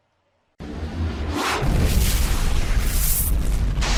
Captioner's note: fire explodes